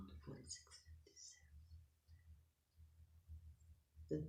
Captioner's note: whispering